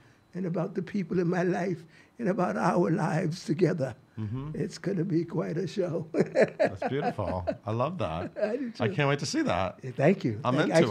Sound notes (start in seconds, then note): 5.8 laughs